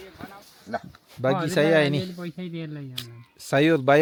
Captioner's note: speaking Nepali; speaking Nepali